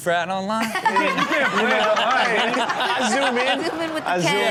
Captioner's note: Chanel laughs